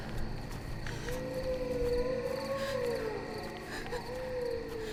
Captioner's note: wolf howling